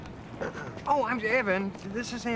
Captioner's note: clearing throat